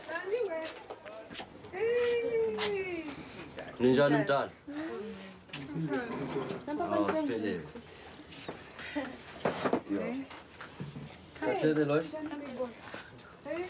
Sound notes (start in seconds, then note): 1.6 Elsie exclaiming; 6.6 chattering in Swahili